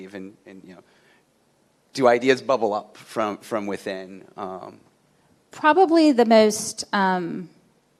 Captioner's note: none